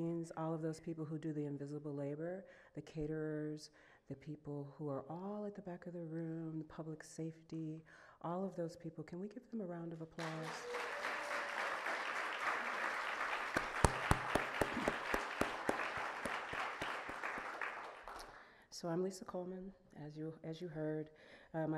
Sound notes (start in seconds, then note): 10.2 audience clapping; 13.6 clapping